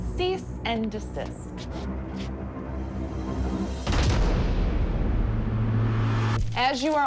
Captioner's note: menacing music; footsteps scrape